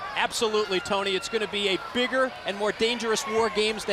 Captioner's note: crowd chatter